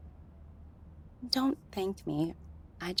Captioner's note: none